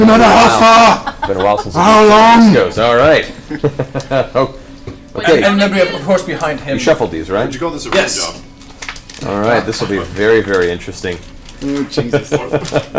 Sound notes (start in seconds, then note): 4.3 laughs